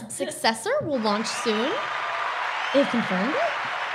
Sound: crowd cheering

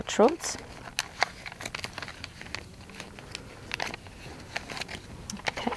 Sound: packaging rustles

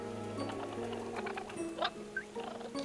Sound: chittering

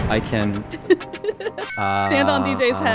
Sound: laughing amusingly

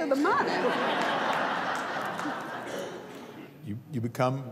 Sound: laughter

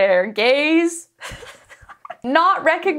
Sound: laughing

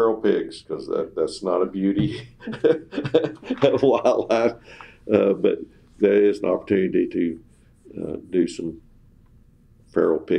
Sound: laughs

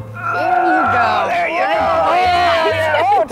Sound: groans

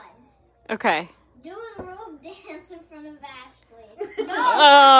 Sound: everyone laughs

